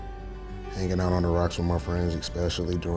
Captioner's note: voiceover